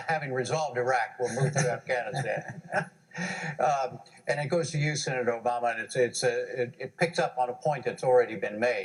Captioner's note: laughter